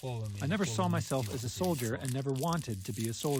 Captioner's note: through translator